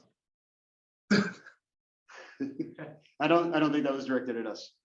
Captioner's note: laugh